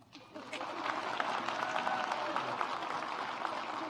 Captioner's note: audience claps